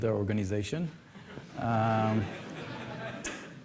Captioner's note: laughter